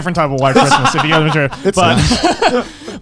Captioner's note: chuckling